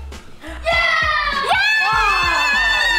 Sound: boys cheering

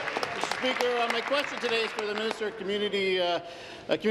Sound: applause

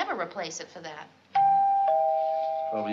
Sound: doorbell

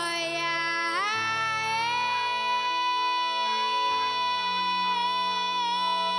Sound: soft music; melodic yelling

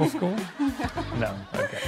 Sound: chuckles

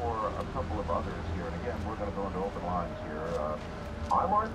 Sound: hospital sounds

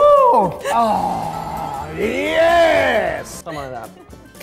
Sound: groans

